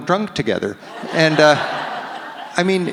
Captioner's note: audience laughs